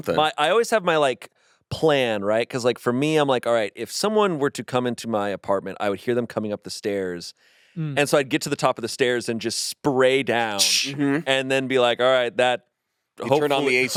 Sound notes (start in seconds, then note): 10.3 whooshes